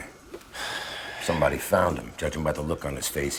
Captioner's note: sighs